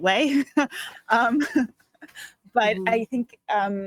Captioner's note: chuckling